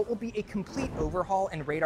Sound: photos whooshing

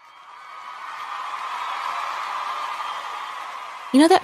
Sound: crowd cheering

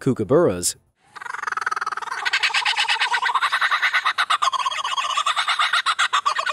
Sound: bird mimics kookaburra chittering

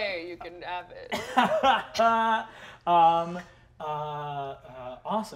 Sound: laughing

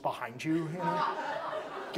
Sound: audience laughs

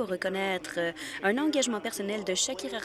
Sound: speaking French

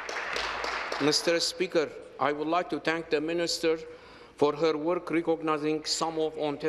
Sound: applause

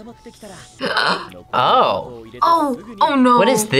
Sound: gasps

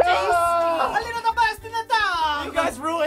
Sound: Italian accent

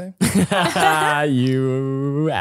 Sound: both laughing

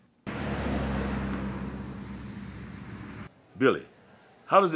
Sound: traffic humming

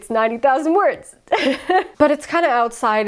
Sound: laughs

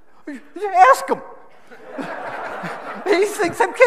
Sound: audience laughing

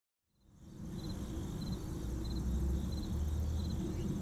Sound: birds tweeting

